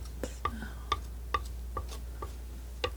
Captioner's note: scratching